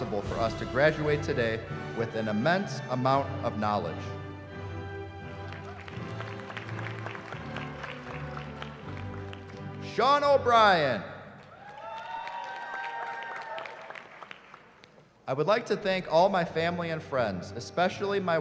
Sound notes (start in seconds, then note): 5.3 applause; 11.4 cheering